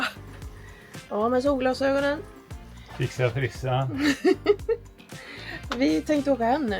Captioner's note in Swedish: skratt